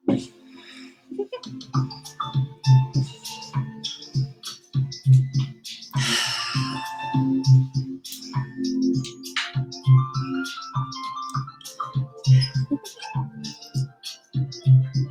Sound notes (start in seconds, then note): 1.1 happy laugh; 9.0 exhale